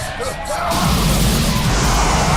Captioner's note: tires squeeling; grunts; metal crashing; brakes squeeling